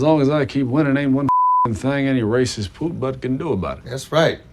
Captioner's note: beep